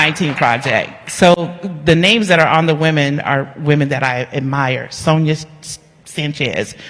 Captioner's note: cheering and applause